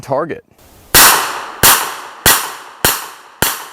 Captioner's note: gun fires